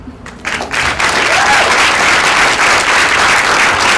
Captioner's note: applause